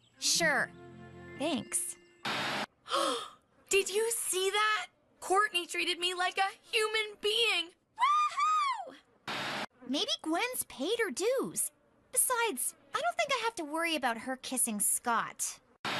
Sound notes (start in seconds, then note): 2.8 Gwen Gasping